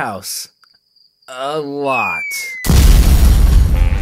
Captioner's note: loud thud